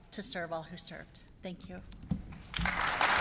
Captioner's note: applause